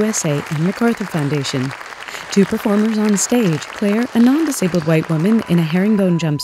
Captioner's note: applause